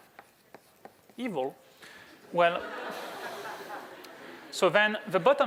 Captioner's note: laughter